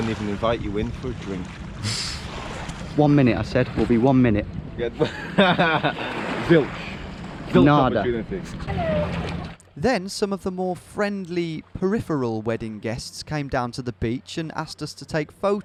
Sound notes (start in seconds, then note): 1.8 laughing; 5.0 laughing; 9.4 laughing